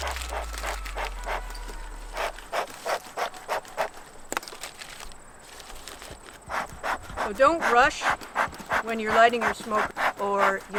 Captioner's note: puffing